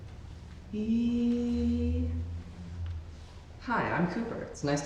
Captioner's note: vocalizing